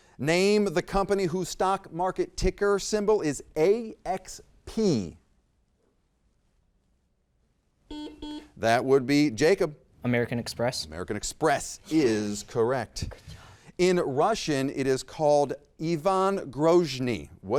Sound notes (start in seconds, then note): 7.9 buzzer beeps